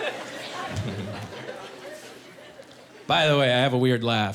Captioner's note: snickering